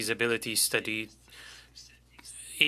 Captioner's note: speaking French